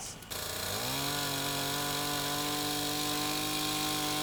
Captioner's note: chainsaw screeching